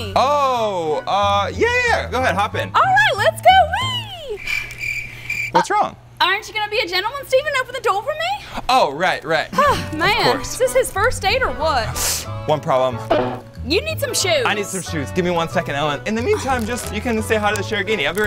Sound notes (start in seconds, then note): 3.7 crickets chirping; 12.9 cartoon honk